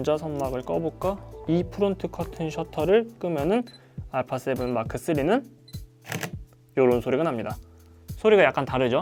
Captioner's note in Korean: a7m3 셔터 소리 e-프론트 커튼 셔터 off